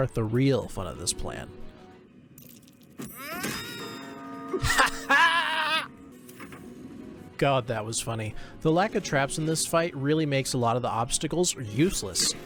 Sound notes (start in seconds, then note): 1.5 Mordred screams; 4.6 Mordred laughs